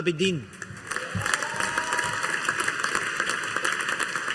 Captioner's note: audience applauding